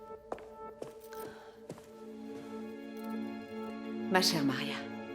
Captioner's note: Catherine sighs